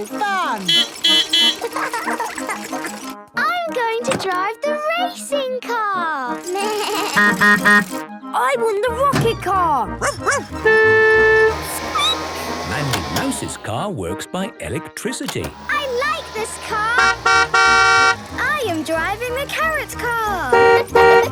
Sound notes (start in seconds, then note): 0.6 beeping; 1.4 laughing; 6.1 bleating; 7.2 honking; 9.5 barking; 10.0 squeaking; 10.3 honking; 15.6 honking